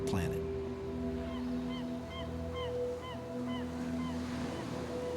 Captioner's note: seagull squawking